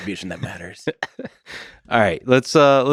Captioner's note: Lex laughs